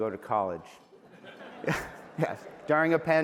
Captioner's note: laughter